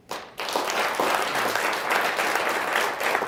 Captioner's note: applause